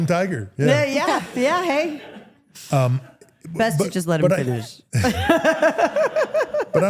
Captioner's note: laughs